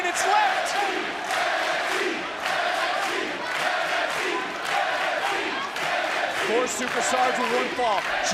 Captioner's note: crowd chants "nxt"